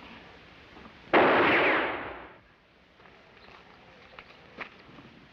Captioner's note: gunshot bangs